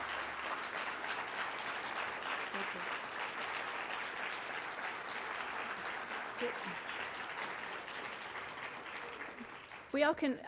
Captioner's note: applause